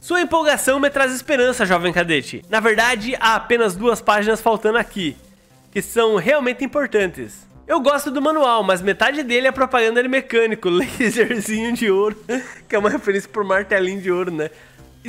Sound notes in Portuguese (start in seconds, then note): 10.8 risos